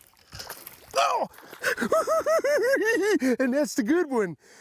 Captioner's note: cackling